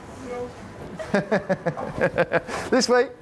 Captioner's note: laughs